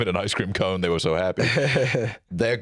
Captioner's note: laughs